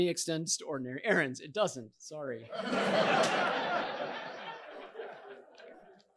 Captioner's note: audience laughing